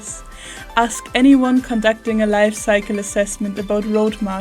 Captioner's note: coughs